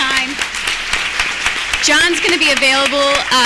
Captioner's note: applause